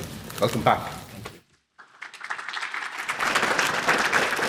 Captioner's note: applause